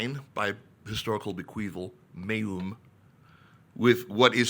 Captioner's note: speaks in foreign language